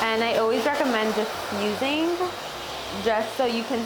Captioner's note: water splashing